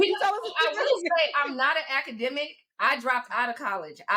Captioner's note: laughs